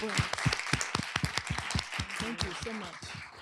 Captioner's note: applause